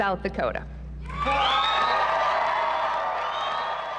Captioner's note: cheering